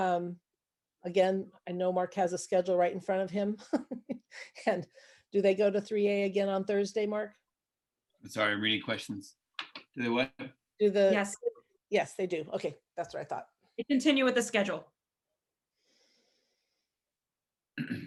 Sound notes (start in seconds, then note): 3.7 laughs